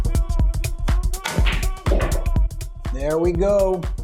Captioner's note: balls clacking